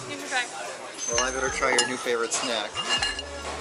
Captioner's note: giggles